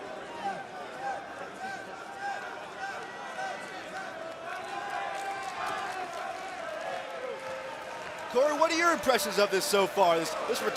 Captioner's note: crowd cheering